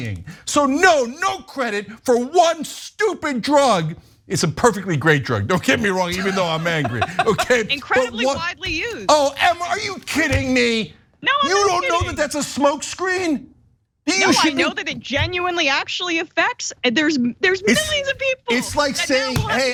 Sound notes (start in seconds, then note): 5.7 laugh